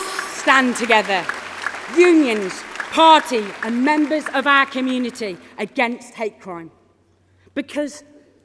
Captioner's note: applause